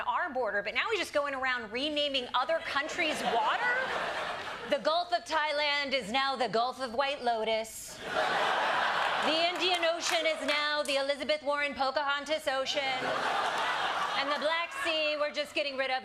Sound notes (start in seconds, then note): 8.0 laughter